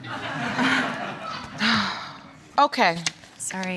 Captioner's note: audience laughing; sighs